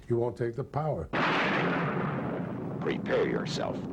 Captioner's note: lightening strikes